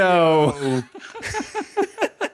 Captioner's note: laughing